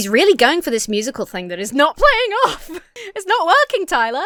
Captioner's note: laughs